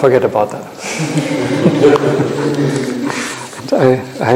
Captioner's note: audience laughing